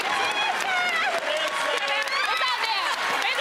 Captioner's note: laughter